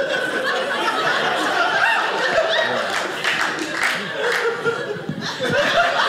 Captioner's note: audience cheering; audience laughing